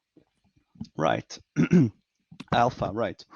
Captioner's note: clears throat